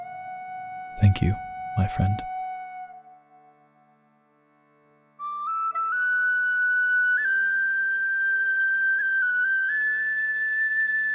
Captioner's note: random humming because I ran out of time whilst writing music